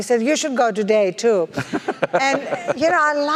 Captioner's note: laugh